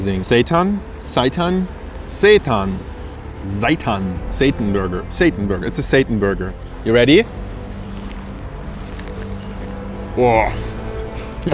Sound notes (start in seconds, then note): 7.6 crunches; 11.3 chuckles